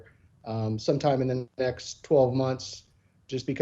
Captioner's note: murmuring